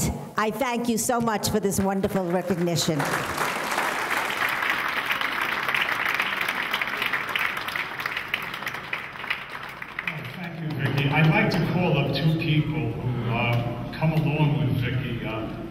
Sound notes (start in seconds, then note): 3.1 audience clapping